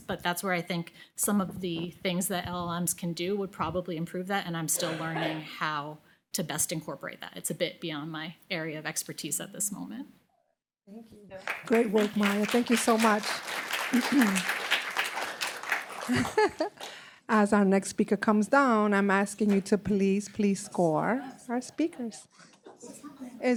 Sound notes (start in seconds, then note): 13.6 applause